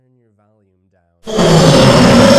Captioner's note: scream